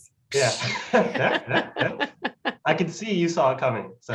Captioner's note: laughing